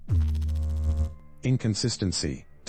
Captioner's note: electrical noise